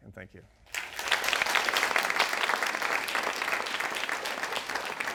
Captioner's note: audience clapping